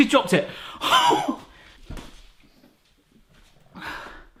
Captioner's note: laughs